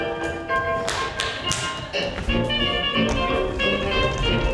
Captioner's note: upbeat Vaudevillian music; Grumio claps